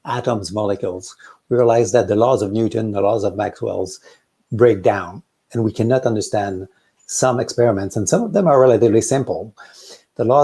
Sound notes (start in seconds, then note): none